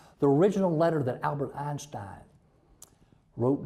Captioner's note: none